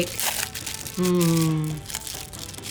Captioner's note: wrapper rustling